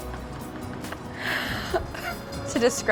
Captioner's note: laughs